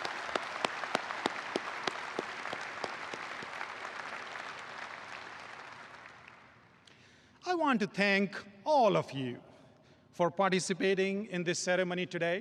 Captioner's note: applause